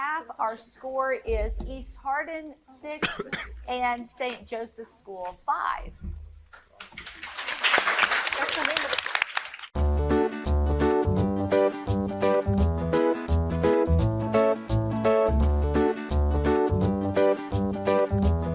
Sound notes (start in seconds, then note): 6.9 audience applauding; 9.8 upbeat music